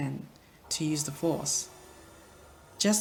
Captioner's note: shimmering sound